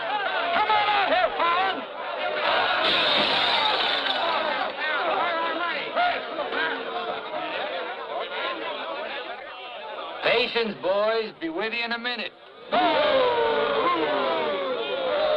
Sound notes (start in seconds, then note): 2.8 glass shattering; 7.0 people yelling; 12.7 men booing